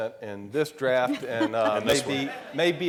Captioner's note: laughing